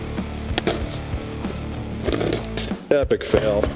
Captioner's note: bottle sputtering